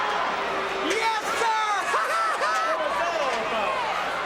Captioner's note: laughs